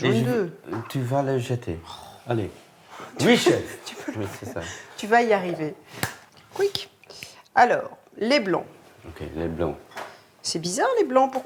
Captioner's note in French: rires